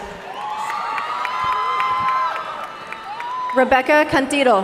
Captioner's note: audience cheering and applauding